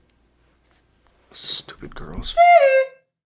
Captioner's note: whispers